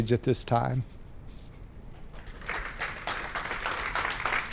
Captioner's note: applause